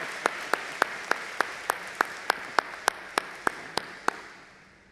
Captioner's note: audience applauding